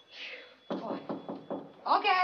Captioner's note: knocking